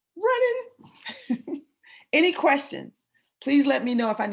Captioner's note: laughter